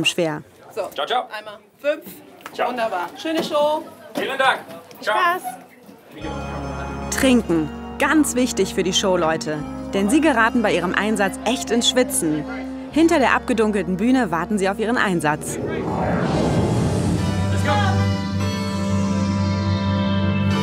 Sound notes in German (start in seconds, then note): 10.1 Stimmengewirr